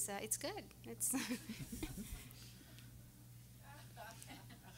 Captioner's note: everyone laughing